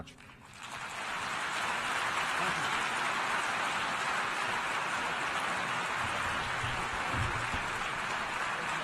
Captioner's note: applause